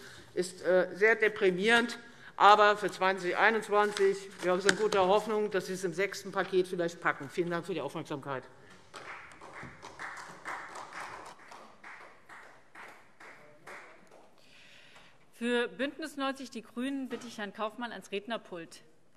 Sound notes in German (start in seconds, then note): 8.7 Beifall Freie Demokraten